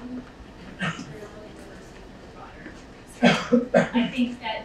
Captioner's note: speaking away from mic